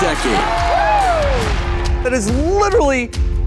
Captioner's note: audience cheers